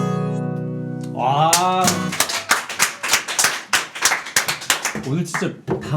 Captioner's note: applause for the holy voice